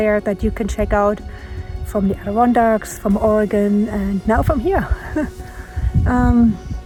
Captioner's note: laughs